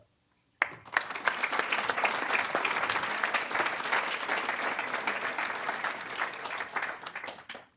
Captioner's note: applause